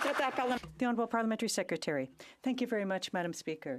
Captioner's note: some Applause